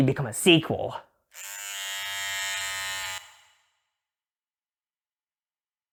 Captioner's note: electric Razor noises